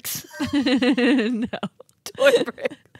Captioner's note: chuckling